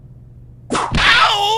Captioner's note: whip crack!